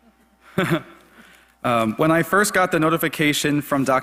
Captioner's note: laugh